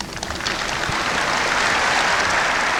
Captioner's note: applause